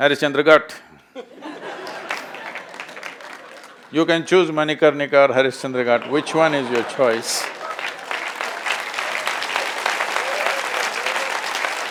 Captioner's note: laughter/Applause; laughter/Applause